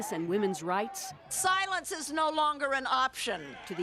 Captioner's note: applause